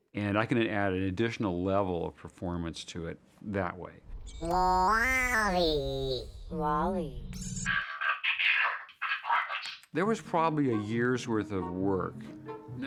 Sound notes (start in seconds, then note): 4.4 modulating; 7.6 voice chattering mechanically